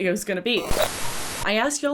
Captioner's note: fuzzy static